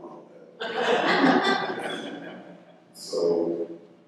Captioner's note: laughter